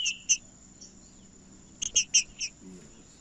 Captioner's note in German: trinca ferro cantando